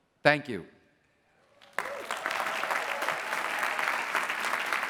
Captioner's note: applause